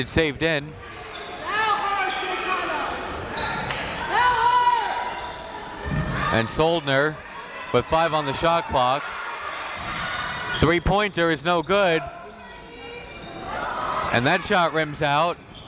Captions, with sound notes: and it's saved in. (crowd members shouting) And Soldner, with five on the shot clock. Three pointer is no good. And that shot rims out.